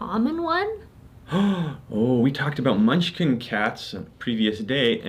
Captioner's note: gasps